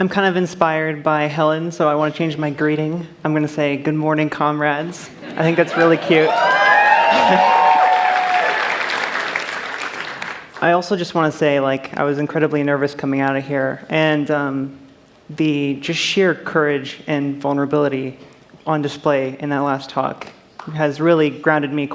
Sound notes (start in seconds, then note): 7.1 cheers